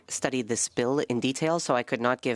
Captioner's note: speaking French